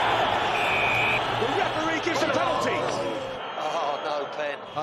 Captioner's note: meniupkan peluit